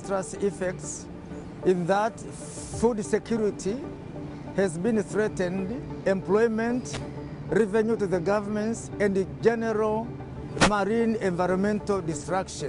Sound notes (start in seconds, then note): none